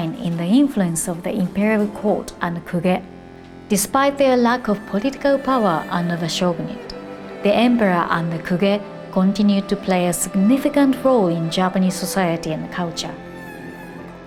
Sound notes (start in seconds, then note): 2.7 speaking Japanese; 8.4 speaking Japanese; 14.0 soft thoughtful music